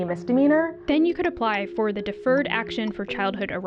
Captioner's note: voice-over